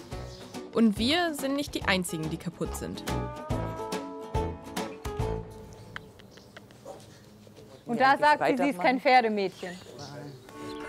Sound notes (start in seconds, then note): 1.8 slow music; 5.5 kissing noise